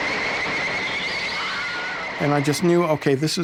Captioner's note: Wilhelm Scream